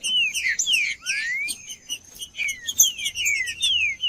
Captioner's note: trinca ferro cantando